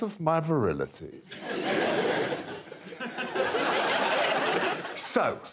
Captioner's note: audience laughing